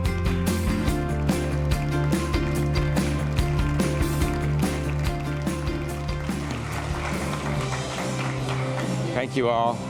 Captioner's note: applause